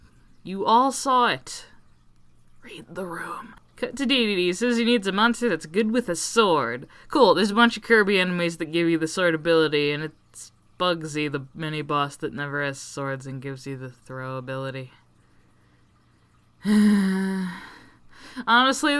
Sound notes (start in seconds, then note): 16.6 siiiigh